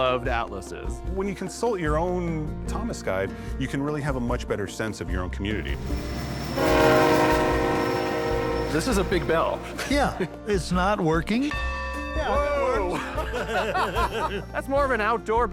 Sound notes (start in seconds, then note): 5.7 train horn blaring; 10.3 bell tolls; 12.9 laughter